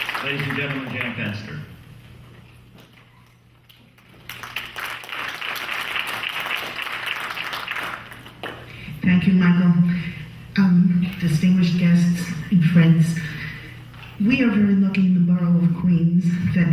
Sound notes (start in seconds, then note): 3.6 clapping